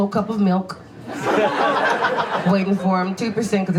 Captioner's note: audience laughs